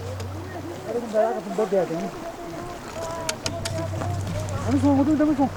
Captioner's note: speaking foreign language